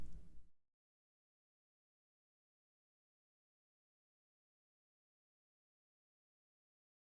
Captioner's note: silence